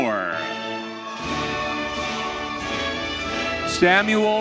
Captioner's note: audience cheering